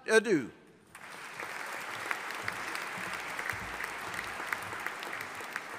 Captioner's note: audience applauding